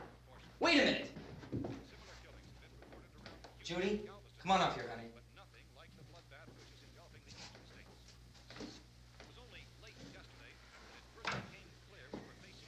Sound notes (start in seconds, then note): 8.1 murmuring